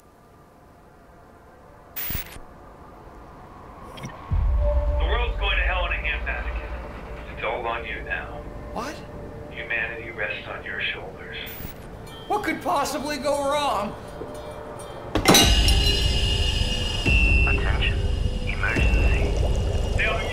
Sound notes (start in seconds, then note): 1.9 static crackles; 15.2 pipe clangs; 15.5 alarm blaring; 15.6 steam hissing